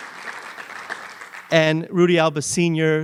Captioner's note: applause